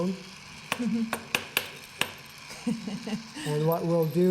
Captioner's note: laughter